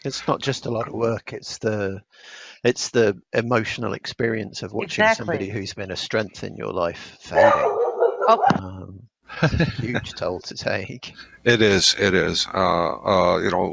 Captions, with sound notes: - It's not just a lot of work. It's the emotional experience of watching somebody who's been a strength in you life fade. (dog barks) (laughs) It's a huge toll to take. - It is, it is.